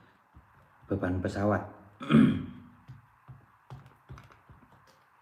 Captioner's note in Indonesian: berdehem